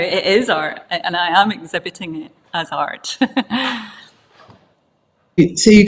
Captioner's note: chuckles